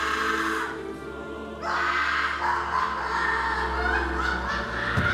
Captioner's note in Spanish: sollozos